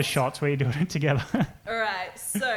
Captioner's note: chuckles